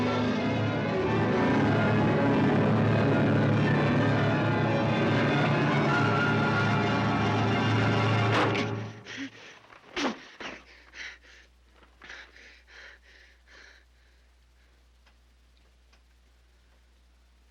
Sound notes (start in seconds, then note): 8.4 grunts and pants; 11.8 breathing heavily